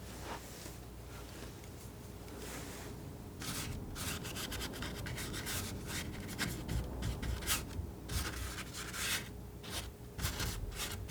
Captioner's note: scratching